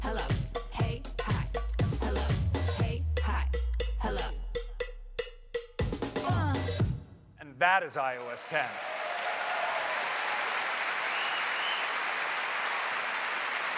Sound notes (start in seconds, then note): 8.1 cheers and applause